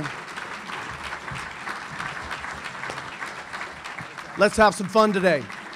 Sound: audience applauding

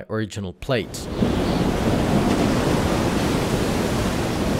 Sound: waves roaring

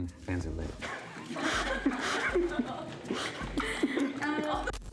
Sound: laughs

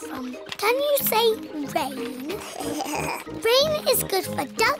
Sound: giggles

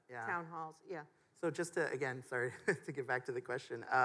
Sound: chuckles

